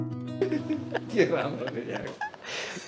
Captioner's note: laughing